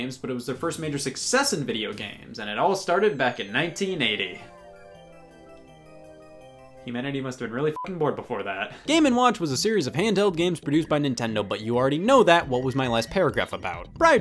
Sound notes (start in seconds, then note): 7.7 beep